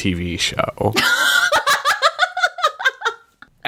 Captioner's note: laughs